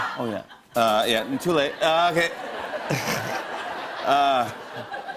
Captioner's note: laughter